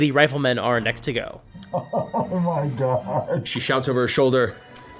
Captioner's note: muffled, laughing